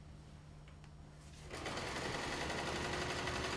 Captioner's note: sewing noise